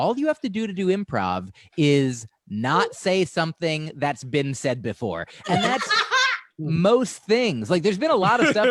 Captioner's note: laughter